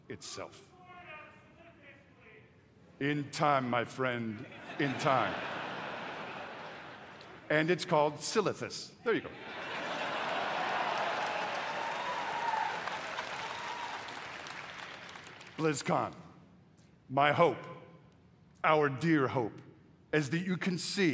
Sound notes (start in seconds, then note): 9.2 laughter